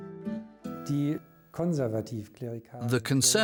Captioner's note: speaking German